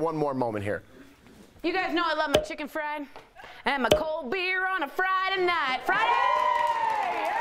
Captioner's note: applause